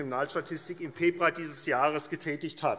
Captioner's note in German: none